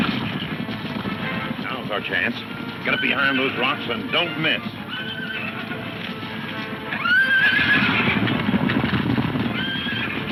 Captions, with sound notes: Now's our chance, get up behind those rock and don't miss. (horses neighing) (hooves thundering)